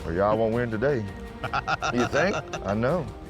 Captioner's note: laughs